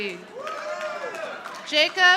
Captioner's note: audience applauding